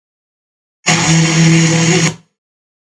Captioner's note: fm noise